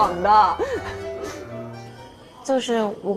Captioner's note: laughing happily